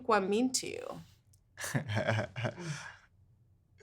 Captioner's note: laughing